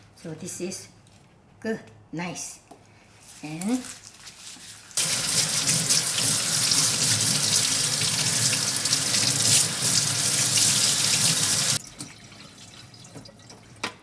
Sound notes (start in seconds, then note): 4.9 water gushing